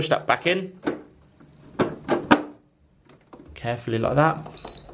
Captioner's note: plastic clicking; dehumidifier beeping